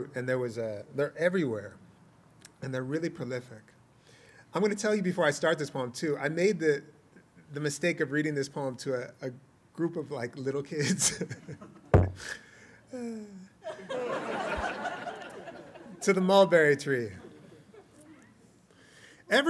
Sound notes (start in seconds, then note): 12.1 laughter